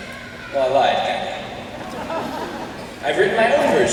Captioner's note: laughter